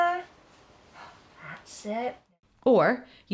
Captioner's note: gasps